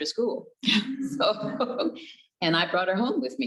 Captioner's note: both chuckles